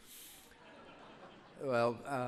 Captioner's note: audience laughs